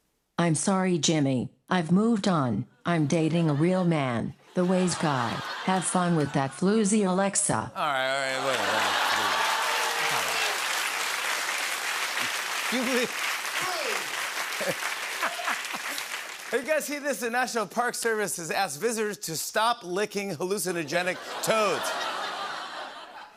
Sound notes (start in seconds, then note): 9.5 applause; 13.4 laughs